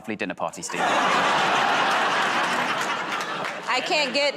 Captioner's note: laughter